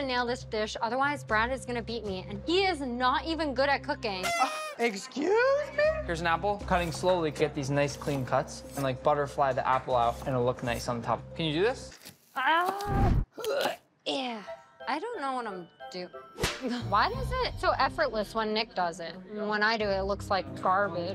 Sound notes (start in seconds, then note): 12.0 grunting